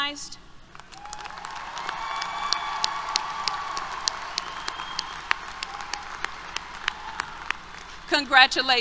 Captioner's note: applause, Cheers